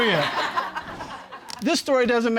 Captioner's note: audience laughing